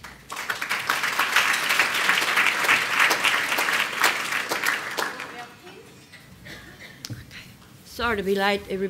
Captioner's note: applause